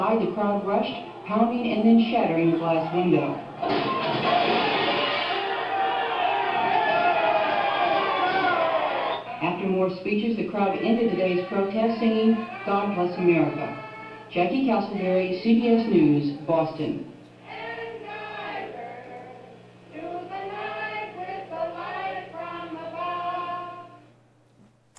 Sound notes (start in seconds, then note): 3.4 glass breaking; 4.9 crowd yelling; 14.1 singing; 17.4 singing